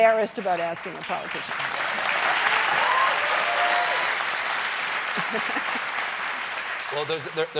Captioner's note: applause